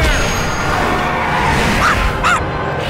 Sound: barking

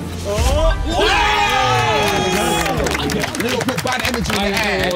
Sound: everyone cheering

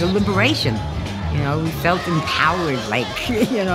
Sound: chuckles

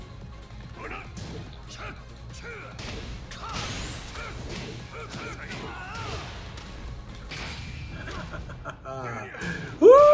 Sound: laugh

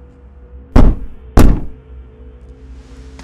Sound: knock, knock

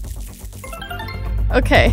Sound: magical warbling

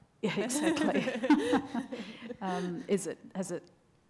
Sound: laughs

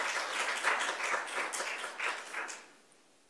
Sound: applause

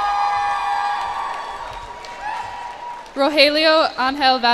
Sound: cheers and applause

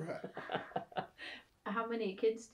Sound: laughter

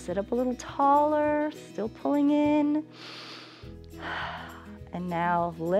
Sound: inhales and exhales

